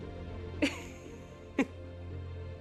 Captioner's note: laughing